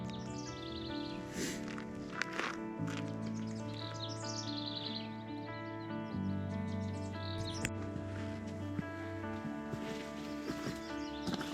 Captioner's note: birds chirping